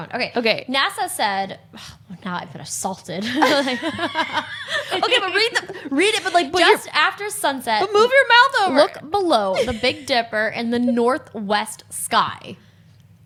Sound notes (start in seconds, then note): 3.4 both laughs